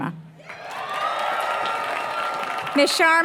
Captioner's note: applause